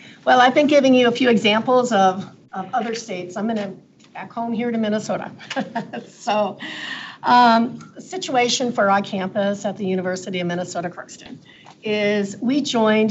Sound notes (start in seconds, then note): 5.4 chuckles